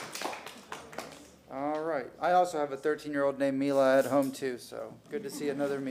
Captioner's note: applause